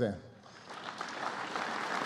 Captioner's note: applause